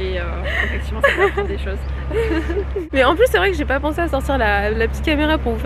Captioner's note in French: rires